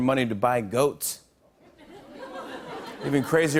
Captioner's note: laughter